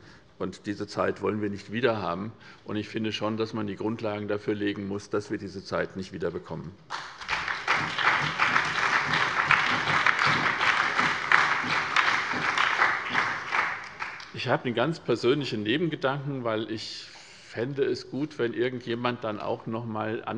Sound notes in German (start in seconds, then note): 6.8 Beifall bei der SPD, der CDU und dem BÜNDNIS 90/DIE GRÜNEN